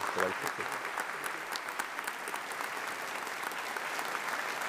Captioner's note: audience applauding